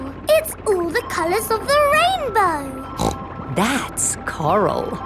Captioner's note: snorts